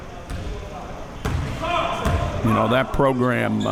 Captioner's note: audience chattering and yelling